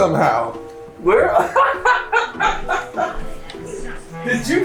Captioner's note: laughs